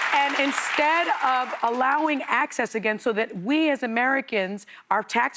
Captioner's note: applause